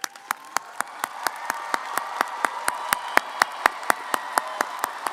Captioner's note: audience cheering & applauding